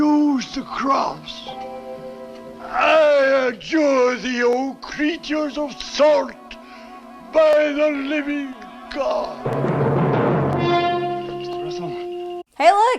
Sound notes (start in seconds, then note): 9.4 death noise